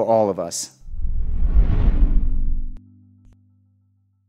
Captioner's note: whooshing